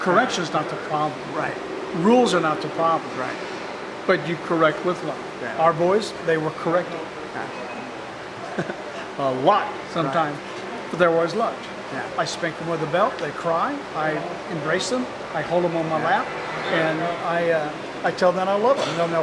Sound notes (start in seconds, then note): 8.4 chuckling